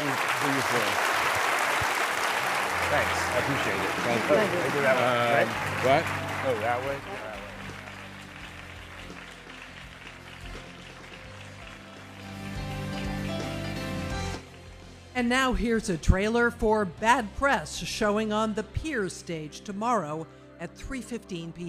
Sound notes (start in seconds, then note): 15.5 applause